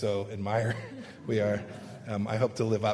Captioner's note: laughter